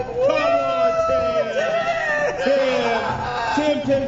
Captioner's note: hooting